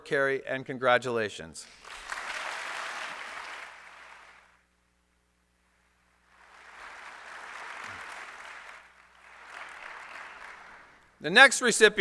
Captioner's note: applause